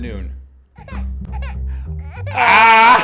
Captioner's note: baby crying